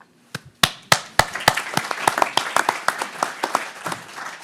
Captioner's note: everyone applauding